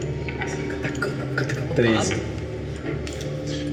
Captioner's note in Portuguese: sussurra